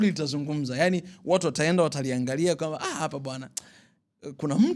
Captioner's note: none